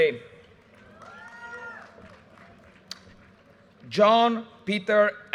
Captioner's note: audience cheers and applause